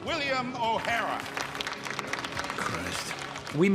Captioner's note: applause